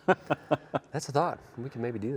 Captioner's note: both laugh